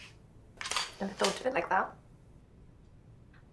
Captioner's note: shutter clicks